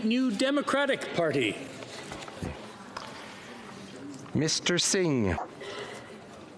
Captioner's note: speaking FRENCH